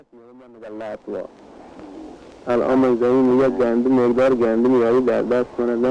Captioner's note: man speaking foreign language